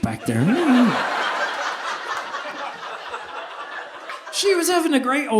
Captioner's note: audience laughing